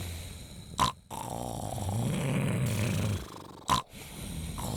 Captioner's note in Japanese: 鼻息